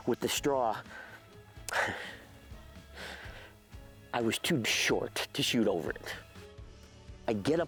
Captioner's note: quietly laughs